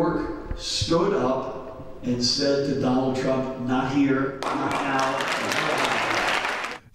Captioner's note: cheering-applause